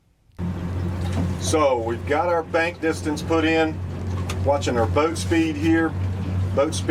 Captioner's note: talking